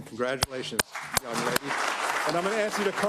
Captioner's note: applause